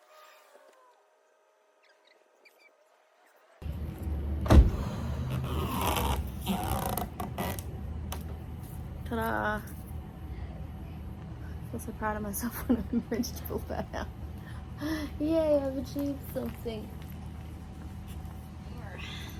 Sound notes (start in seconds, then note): 4.4 car door slams; 5.2 ripping, stretchy, vibrating noise as sticky backing is removed; 12.5 laughs; 14.3 laughingly sarcastic